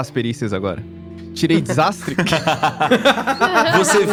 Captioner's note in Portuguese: Risadas